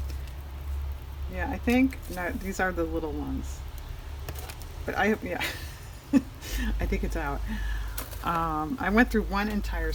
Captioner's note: laughs